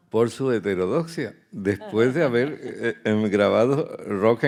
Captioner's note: speaking in Spanish